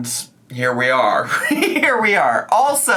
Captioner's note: laughs